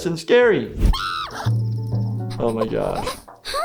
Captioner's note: Flaky screams